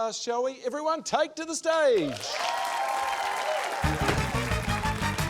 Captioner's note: cheering, applause